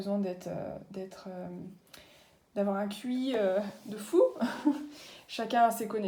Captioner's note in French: rires